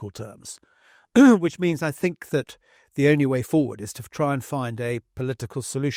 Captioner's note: cough